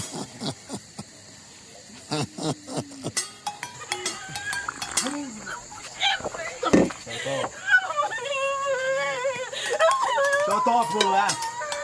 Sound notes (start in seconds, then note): 0.2 Ekong chuckles; 6.2 Tife sobbing